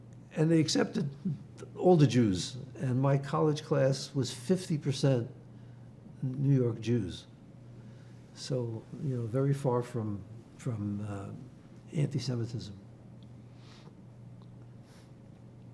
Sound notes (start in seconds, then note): none